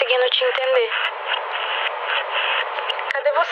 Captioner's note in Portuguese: ruído de interferência